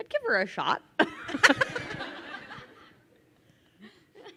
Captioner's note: crowd laughing